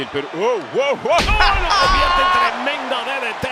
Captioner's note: laugh